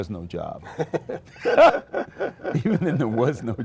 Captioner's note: laughter